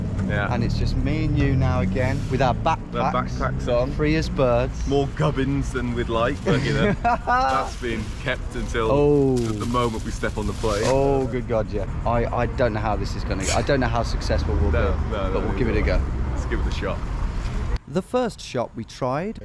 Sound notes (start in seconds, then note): 6.4 laughing